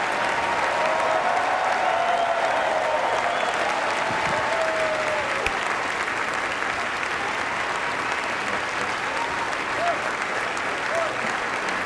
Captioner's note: applause